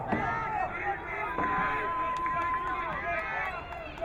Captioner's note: crowd cheering